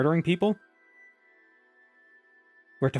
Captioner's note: a loud silence